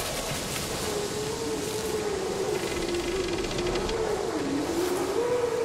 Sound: howling, creaking continue

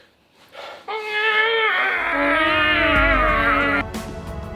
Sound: cat screeching

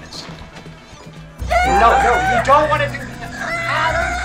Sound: screaming

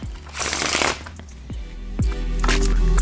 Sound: card shuffle; soft Music

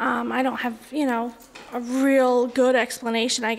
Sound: none

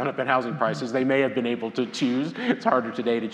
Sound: laughs

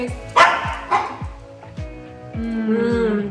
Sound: dog barks; girls groan

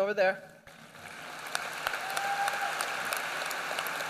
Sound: applause

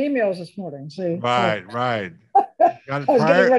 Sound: laughs

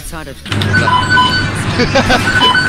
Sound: beep boop beep boop beep

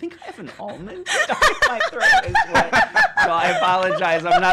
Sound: laughing

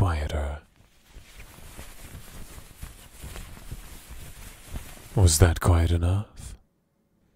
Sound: muffled slaps, slapping mattress

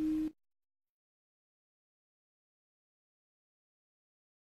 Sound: silence

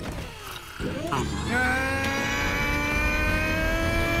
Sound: straining

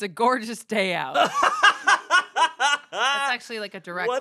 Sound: laughs

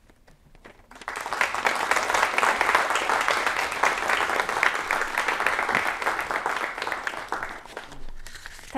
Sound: applause

